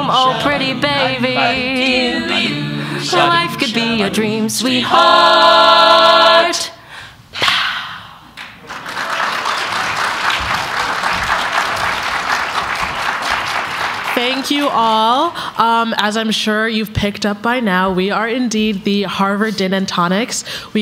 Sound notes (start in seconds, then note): 4.9 harmonizing; 6.8 exhaling; 8.4 applause